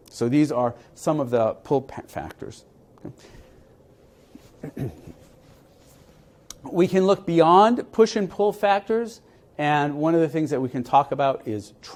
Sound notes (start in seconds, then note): 2.6 cough